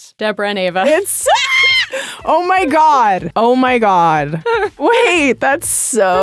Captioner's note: screams